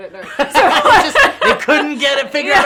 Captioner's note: laughter